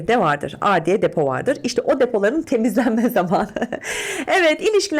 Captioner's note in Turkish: kahkaha